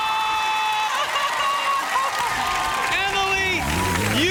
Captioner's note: applause